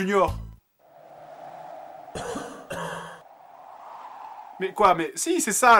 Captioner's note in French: Silence, bruit de toux